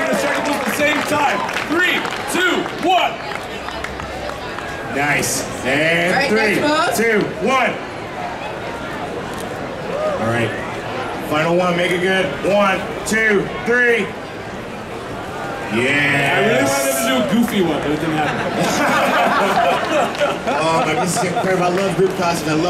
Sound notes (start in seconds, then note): 2.5 audience chattering; 7.4 audience chattering; 14.4 audience chattering; 17.9 audience laughing